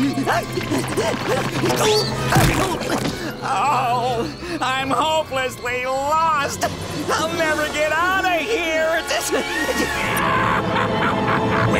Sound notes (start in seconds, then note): 1.4 grunting; 8.7 laughing